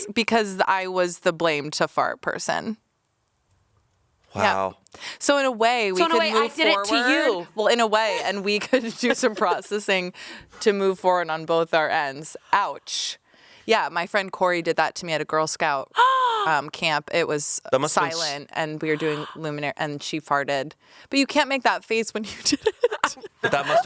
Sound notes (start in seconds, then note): 16.0 gasps; 22.3 laughs